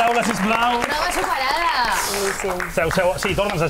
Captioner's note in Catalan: aplaudiments